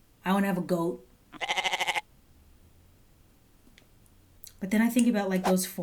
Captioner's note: goat bleating